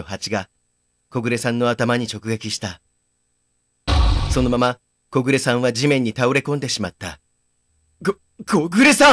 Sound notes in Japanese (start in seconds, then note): 3.9 地面に倒れた音：ドスン！